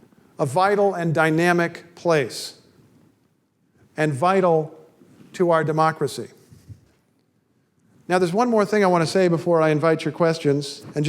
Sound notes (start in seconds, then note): none